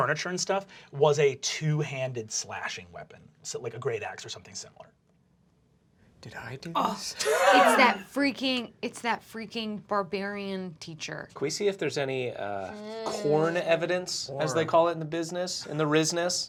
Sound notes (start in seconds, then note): 7.1 laughing